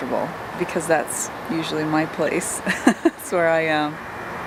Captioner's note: laughing